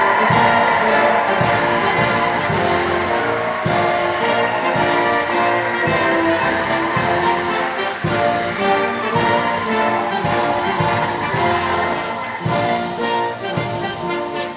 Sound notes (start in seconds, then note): 2.5 applause